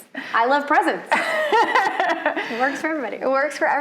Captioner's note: laughs